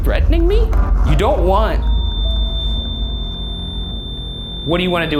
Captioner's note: REM-pod beeps